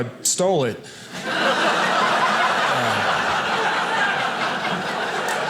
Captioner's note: audience laughing